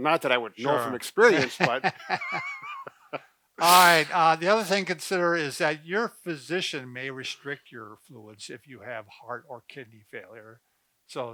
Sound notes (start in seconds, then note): 1.5 chuckling